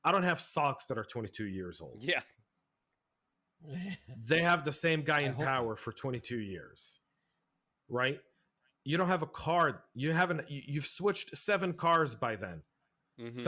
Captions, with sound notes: I don't have socks that are 22 years old. - Yeah. (laughs) - They have the same guy in power for 22 years, right? You don't have a car, you've switched seven cars by then.